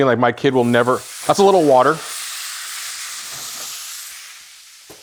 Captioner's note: butter sizzling